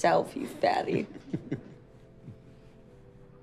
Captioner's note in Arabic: ضحك